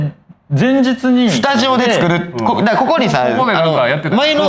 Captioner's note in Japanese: 笑い